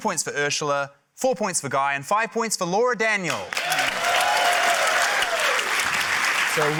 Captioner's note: cheering, applause